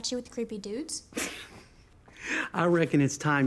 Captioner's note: chuckles